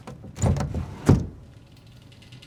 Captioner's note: window thuds